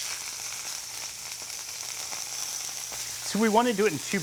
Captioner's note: sizzling